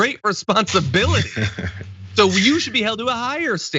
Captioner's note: laugh